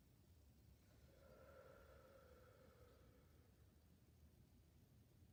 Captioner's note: breathing deeply